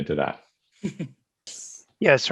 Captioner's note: laughing